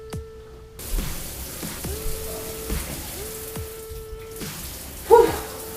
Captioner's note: water pattering